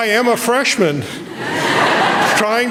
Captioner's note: laughter